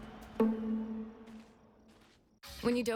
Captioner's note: footsteps